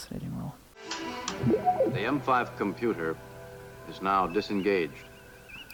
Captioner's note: whirring